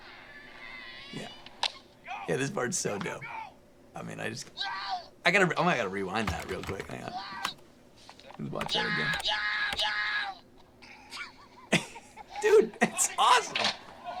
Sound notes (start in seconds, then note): 9.7 yelling; 10.9 laughs